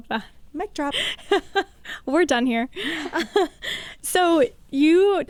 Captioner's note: laughs